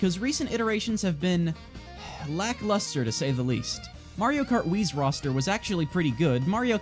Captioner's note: sigh